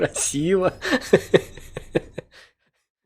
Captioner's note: laugh